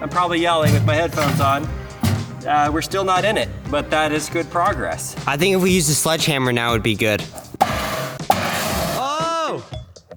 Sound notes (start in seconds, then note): 7.2 metal box clangs